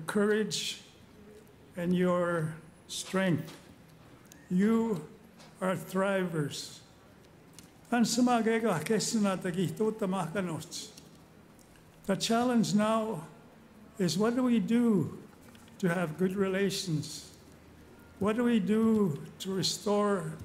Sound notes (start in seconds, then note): 13.5 speaking Indigenous Language